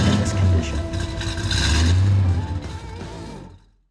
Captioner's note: engine revs